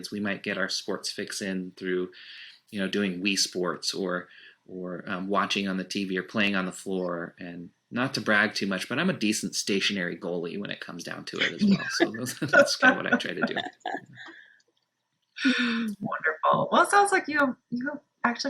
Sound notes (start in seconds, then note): 14.3 laughing